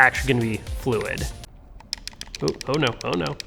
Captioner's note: clicking